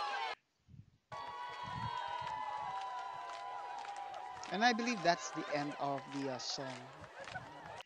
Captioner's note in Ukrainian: Оплески